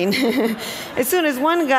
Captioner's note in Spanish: risas